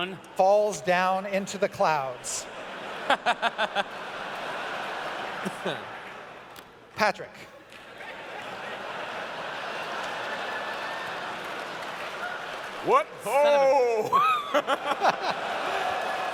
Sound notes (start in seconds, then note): 2.2 laughter; 7.8 laughter; 14.0 laughter